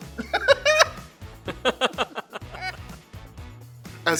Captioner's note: laughs; all laugh